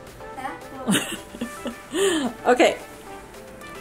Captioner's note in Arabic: يضحك